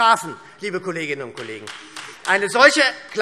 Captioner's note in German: Beifall SPD